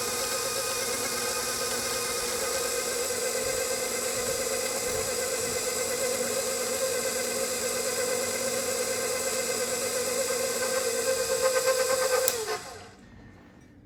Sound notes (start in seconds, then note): 3.0 grinder whirring